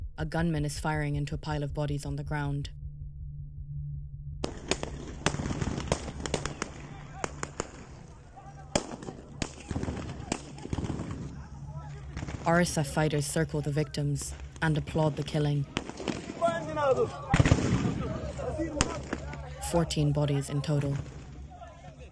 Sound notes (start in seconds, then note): 4.4 gunshots